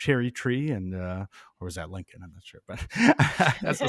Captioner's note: chuckling